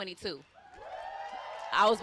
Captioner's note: wooting